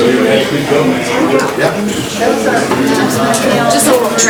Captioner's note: loud murmuring